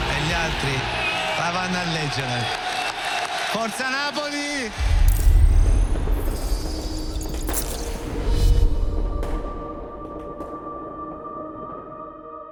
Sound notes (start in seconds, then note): 2.3 crowd cheering